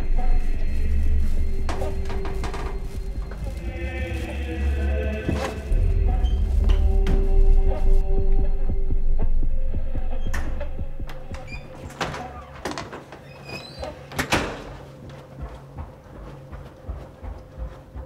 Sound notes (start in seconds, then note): 7.9 flies buzzing; 8.2 heart beating fast